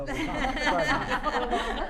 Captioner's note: laughter